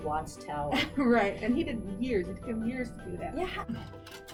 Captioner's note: laughs